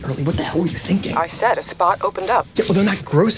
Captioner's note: on phone